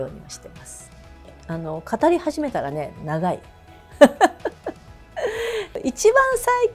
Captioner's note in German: lacht